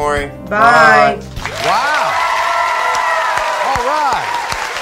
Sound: audience applauding

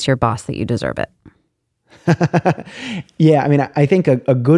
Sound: laughter

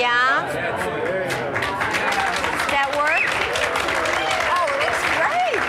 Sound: applause

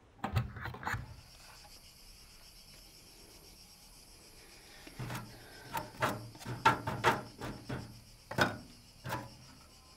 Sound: cicadas buzzing

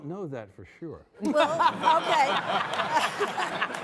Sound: all laughing

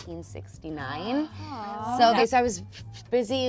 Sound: gasps

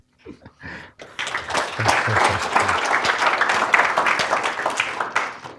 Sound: applause

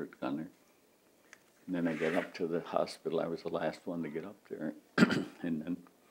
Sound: clears throat

